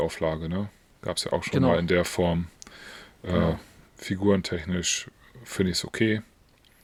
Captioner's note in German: schnauben